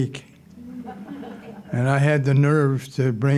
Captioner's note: audience laughing